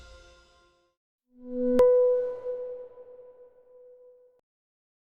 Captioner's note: loud bing